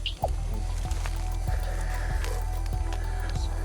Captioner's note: Christian's colleague panting